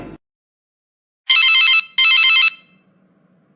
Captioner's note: cell phone rings